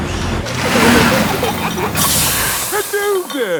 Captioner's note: peppa and george giggling; air hisses